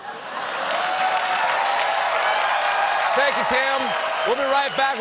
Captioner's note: cheers and applause